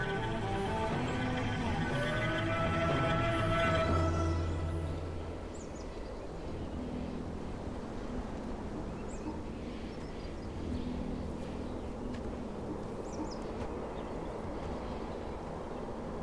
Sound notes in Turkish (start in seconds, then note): 4.7 Kuş sesleri